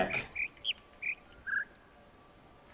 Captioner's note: bird chirps ˧ ˧ ˥ ˧ ˩